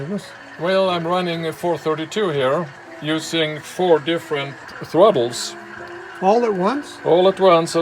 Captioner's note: engine